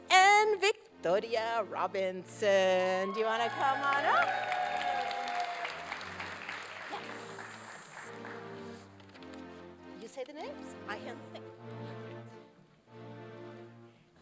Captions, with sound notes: and Victoria Robinson. Do you wanna come on up? Whoo. Yay. Yes. You say the names? I hand the things. (indistinct conversation)